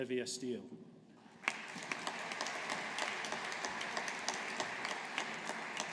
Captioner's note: audience applauding